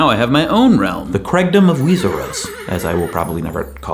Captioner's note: horse whinnies